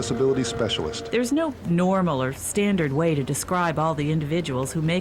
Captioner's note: voiceover